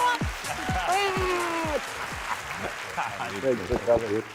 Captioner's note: applause